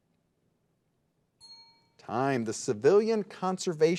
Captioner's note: bell rings